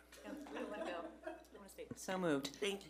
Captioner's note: board members murmuring